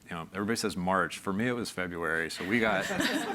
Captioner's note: everyone laughs